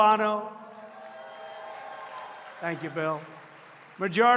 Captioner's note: applause